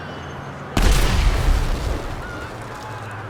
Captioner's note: explosion; people scream